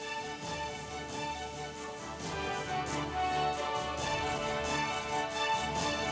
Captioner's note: cheers and applause